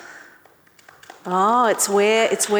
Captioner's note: audience clapping